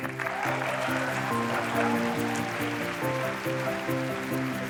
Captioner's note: applause